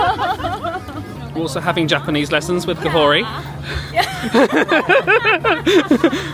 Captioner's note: all laughing; laughing